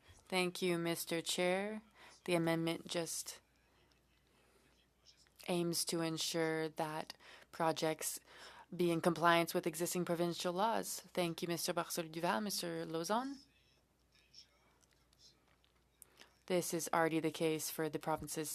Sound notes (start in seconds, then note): 3.8 speaking French